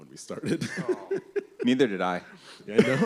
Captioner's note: laughs; laughter